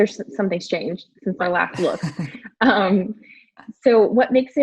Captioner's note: laughs